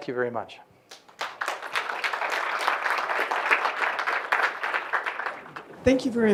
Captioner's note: applause